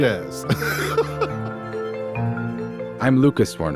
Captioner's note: laughing; electronic music